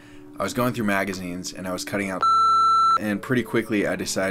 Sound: beep

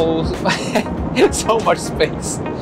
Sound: chuckling

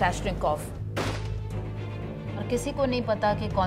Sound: speaking urdu

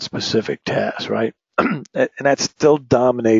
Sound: cough

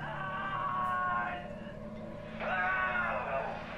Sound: Sean screaming

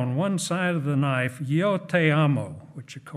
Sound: speaking in foreign language

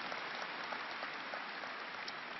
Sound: applause

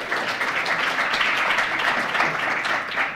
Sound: applause

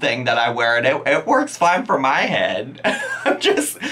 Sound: laughing

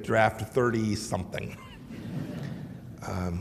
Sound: laughter

